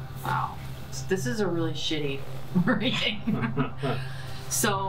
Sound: laughs

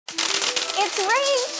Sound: chickpeas clatter

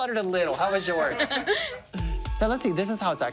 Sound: laughs

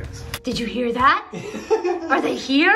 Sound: laughing

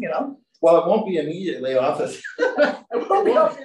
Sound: laughter

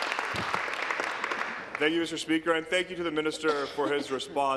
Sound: applause

